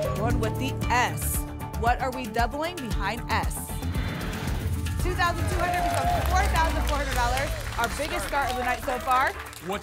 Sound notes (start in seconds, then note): 3.7 whoosh; 5.0 applause and cheering